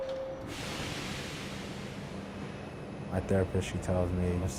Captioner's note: train engine hissing